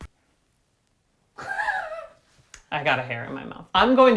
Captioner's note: laughs